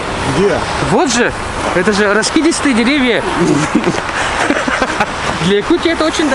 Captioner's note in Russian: смех